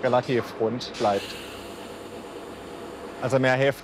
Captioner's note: hissing